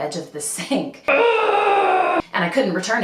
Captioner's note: angry groan